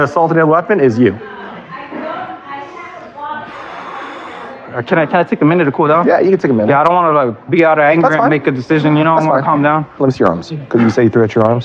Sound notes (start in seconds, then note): 2.6 exhxhalales